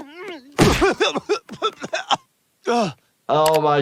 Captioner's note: coughing